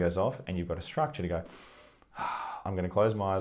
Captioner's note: takes a deep breath